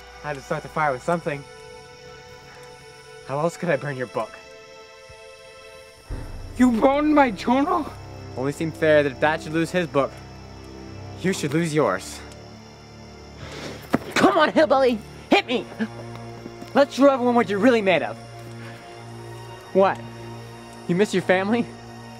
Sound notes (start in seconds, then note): 2.3 fire crackling; 12.7 fire crackling